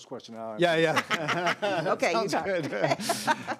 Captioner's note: laughing